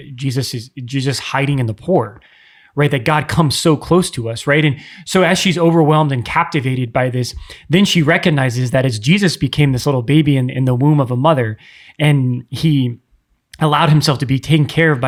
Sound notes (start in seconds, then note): none